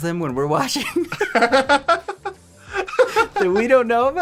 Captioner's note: laughing